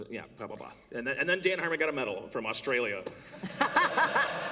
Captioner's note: laughter